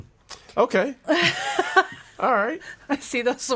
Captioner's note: laughing